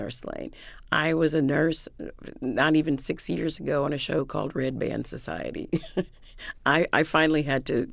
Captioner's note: laughter